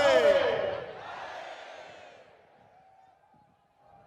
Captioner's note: cheers